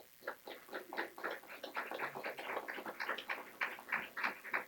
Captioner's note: clapping